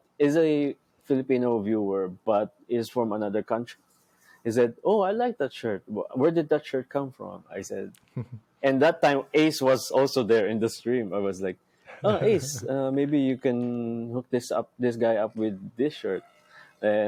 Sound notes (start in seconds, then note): 8.1 chuckles; 11.9 chuckles